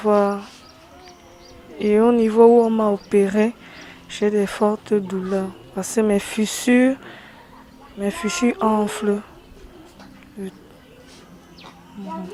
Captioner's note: tears